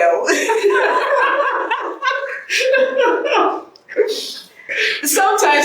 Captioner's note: interviewer joins in laughter